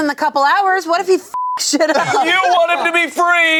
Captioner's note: beep